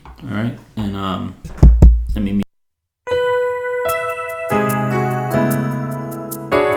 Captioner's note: tap tap